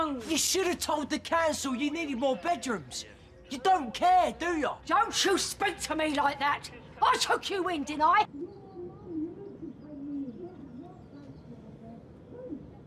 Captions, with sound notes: You should have told the council you needed more bedrooms! You don't care, do you? Don't you speak to me like that! I took you in, didn't I? (Muffled shouting)